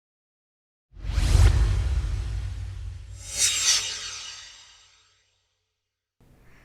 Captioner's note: swoosh